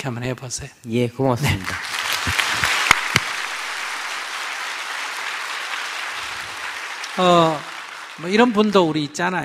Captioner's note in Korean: 청중 박수